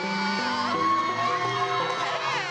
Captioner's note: cheering